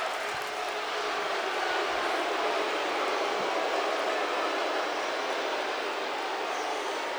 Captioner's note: crowd booing